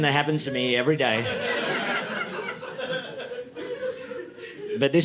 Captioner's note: audience laughing